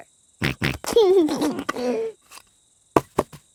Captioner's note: snorts and laughs